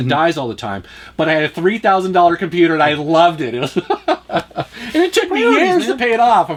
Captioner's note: laughs